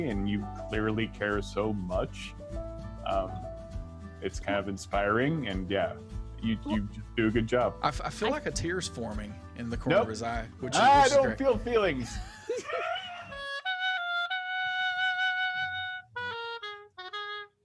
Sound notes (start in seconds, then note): 10.8 laughing; 13.3 trumpet music